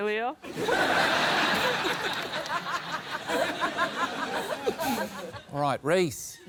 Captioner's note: laughter